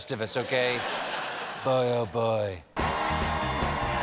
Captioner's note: laughter